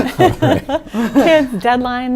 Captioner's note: laughing